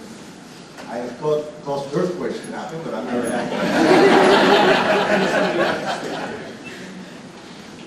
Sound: student laughter

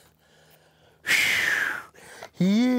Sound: heavy sigh

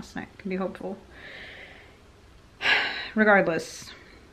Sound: sighs

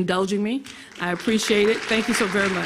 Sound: audience clapping

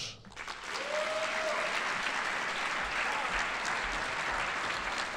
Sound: audience applauding

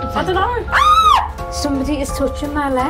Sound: screams

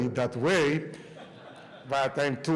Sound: laughter

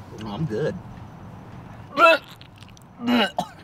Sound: vomiting noise

